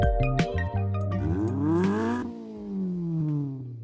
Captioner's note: engine revs